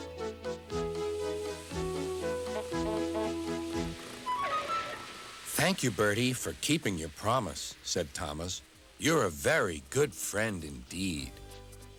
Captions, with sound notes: ( honking ) ( brakes screech ) "THANK YOU, BERTIE, FOR KEEPING YOUR PROMISE," SAID THOMAS. "YOU'RE A VERY GOOD FRIEND INDEED."